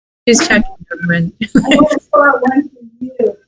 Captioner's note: laughs